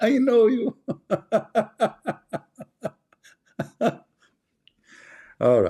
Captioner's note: Ketawa